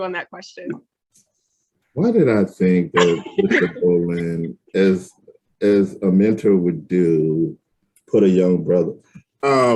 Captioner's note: laughing